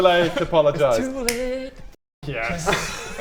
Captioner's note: snap!